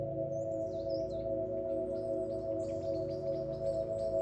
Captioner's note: chirping birds fade in, music continues in background